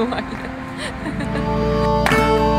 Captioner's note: giggling